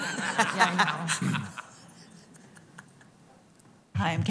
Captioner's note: chuckling